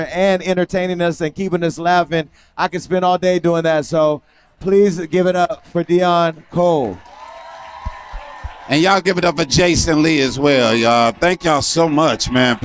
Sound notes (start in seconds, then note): 6.2 applause